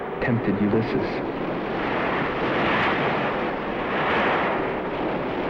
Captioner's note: waves crashing